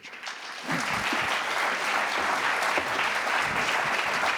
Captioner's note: applause